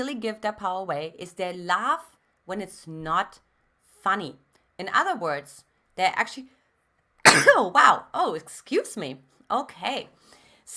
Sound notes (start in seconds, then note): 7.2 sneezes